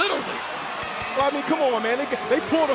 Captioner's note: bell ringing